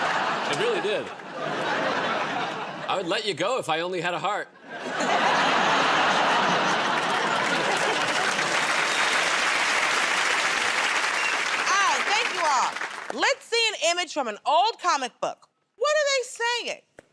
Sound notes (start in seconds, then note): 4.6 laughter; 8.0 applause